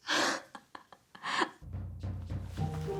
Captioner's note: Alex laughing